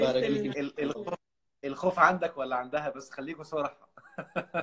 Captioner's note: laughs!